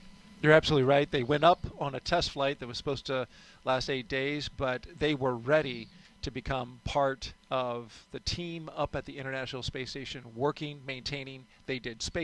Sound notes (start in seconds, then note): none